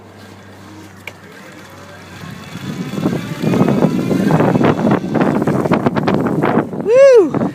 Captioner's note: motor whirring